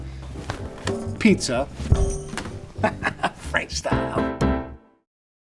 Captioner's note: laughs